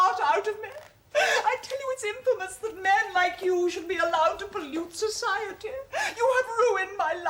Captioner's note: sobs